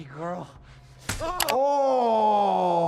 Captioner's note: knife thuds